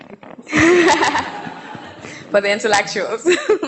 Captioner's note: audience laughing